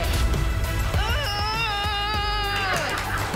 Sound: yells; applause

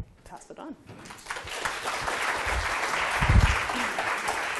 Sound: audience applauding

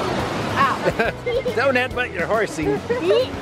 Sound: laughs

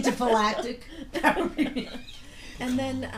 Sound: voiceover; laughing; voiceover

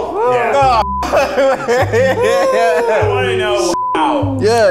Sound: laughs; beep

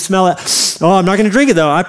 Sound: sniffs

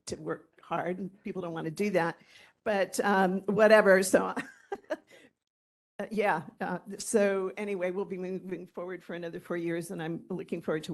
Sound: laughter

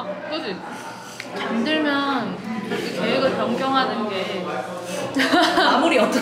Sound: haha

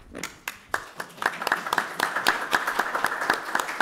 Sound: applause

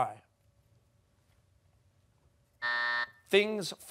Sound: buzzer

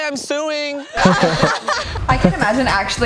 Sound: all laugh

